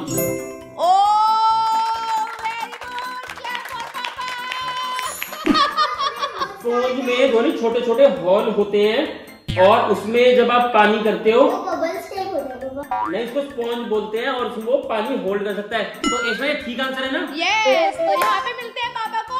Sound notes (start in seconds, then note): 3.5 applause